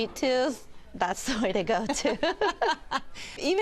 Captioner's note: laughter